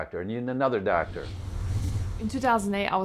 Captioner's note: whooshing